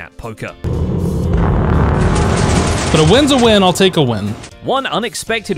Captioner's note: dungeon noises